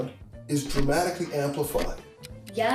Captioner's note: ticking